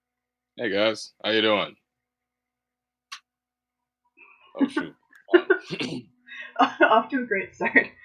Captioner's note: laughter